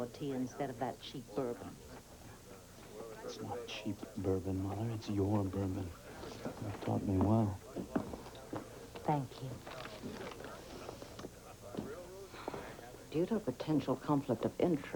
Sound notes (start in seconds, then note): none